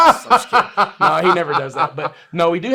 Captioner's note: laughs